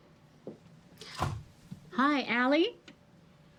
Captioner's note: Ally gasps